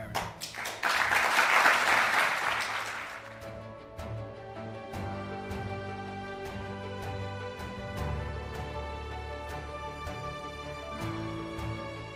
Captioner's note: applause